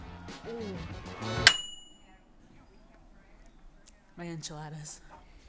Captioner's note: microwave dinging